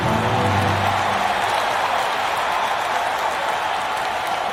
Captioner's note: crowd cheering